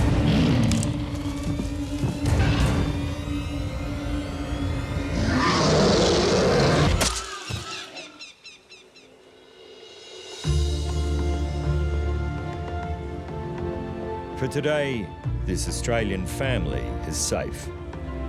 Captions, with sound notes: [lion growls] [lion roars] [spear thuds] [uplifting music] For today, this Australian family is safe.